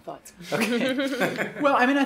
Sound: laughs

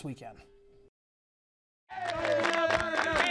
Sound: cheering

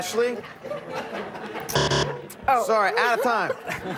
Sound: buzzer; laughter

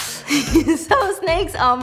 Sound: laughs

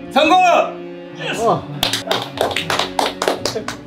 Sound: applaud

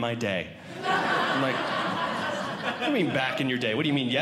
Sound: audience Laughing

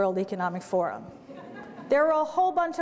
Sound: light audience laughter

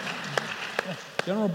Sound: applause

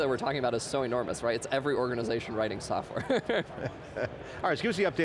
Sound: laughing

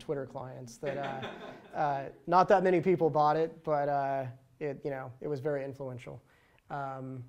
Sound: laughter

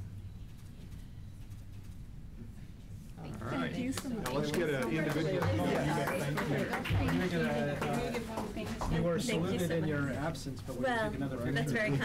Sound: applause

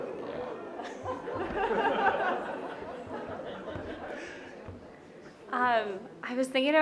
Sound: laughs

